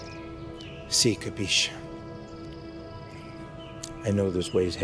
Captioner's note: Lou speaking in Italian